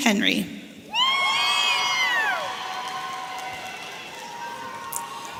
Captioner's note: audience cheering